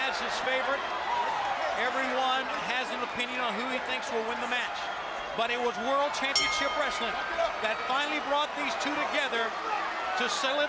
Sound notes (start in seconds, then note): 6.3 bell ringing